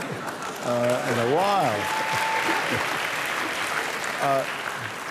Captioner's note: laughter